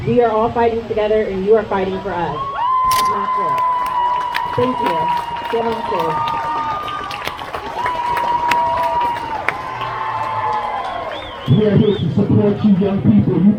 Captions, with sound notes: We are all fighting together and you are fighting for us! Thank you! [crowd cheers] We are here to support you young people!